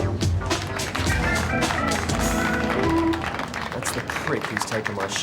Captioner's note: guests applauding